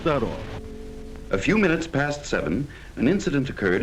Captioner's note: voiceover